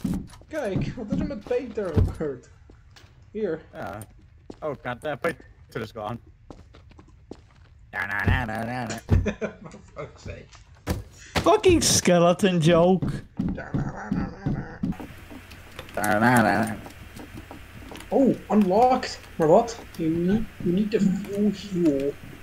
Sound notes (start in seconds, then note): 8.0 laughing